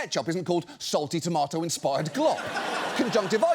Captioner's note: audience laughs